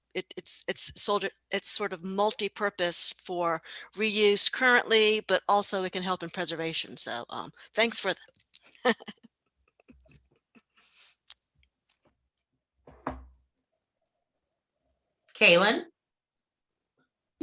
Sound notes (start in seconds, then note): 8.8 laughing